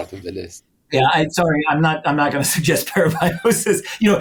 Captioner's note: laughter